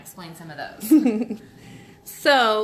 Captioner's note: laughing